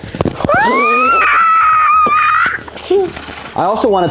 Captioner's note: squealing